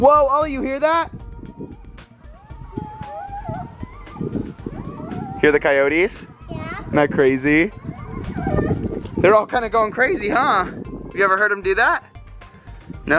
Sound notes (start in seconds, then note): 2.2 howling